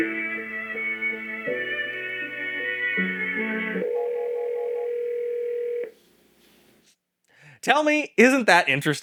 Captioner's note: music playing, Phone ringing